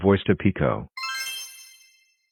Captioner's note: magic spell sound plays again